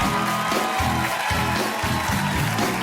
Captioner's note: cheers and applause